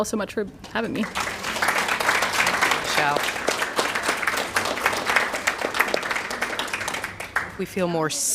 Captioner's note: applause